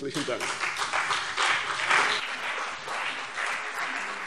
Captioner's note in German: Anhaltender Beifall CDU und BÜNDNIS 90/DIE GRÜNEN